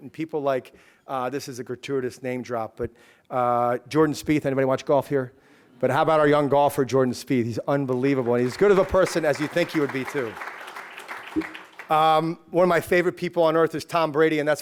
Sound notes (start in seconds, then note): 10.5 applause